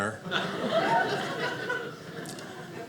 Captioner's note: audience laughing